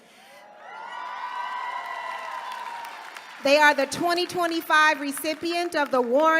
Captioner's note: applause